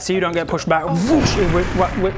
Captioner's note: woosh!